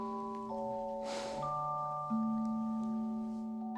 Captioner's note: sigh